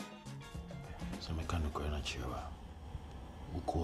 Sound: in Twi

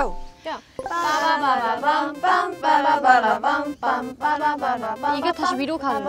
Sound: Ladders game sound effect ON

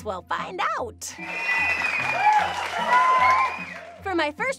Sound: audience cheers

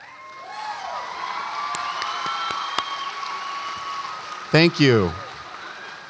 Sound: audience applauds and cheers

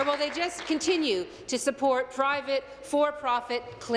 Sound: applause

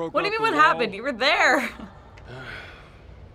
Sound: chuckles

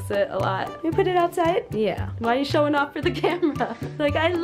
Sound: laughing

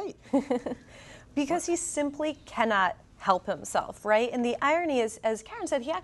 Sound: laughs

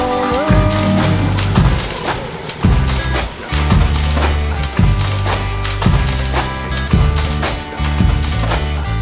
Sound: Dinosaurs splashing in the water

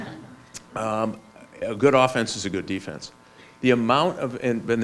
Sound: laughs

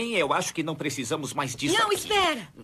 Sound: sighs

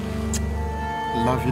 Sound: kiss smooches

